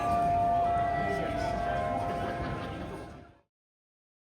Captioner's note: chimes from sheffield town hall